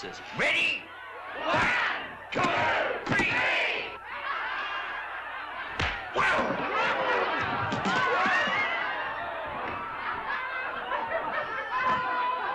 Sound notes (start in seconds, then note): 1.5 crowd; 4.4 crowd laughs; 5.8 loud pop; 7.4 crowd woos & laughs